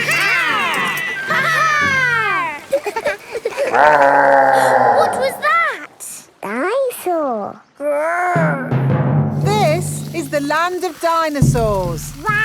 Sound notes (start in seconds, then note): 3.3 laughing; 3.6 growling; 5.1 gasps